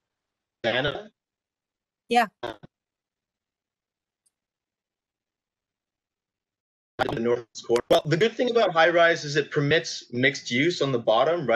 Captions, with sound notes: [signal breaking up] The good thing about high-rise is it permits mixed-use on the bottom,